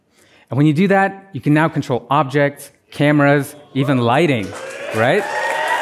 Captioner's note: applause